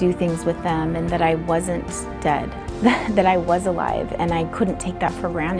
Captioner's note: laughing